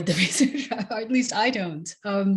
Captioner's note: laughs